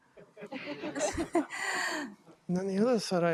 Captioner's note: audience laughing